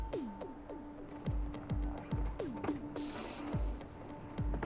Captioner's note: none